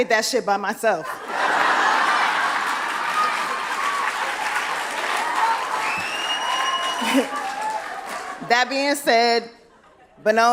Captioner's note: laughter